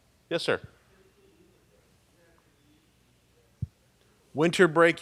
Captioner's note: person speaking off mic